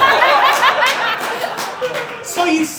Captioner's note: audience Laughing